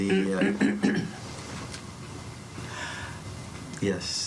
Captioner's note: clears throat